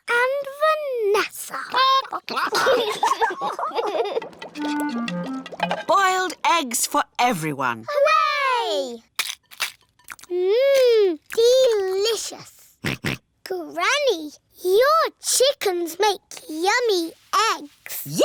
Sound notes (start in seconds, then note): 1.8 chickens chatter; 2.0 children giggle; 12.1 george oinks